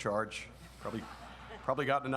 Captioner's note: audience laughs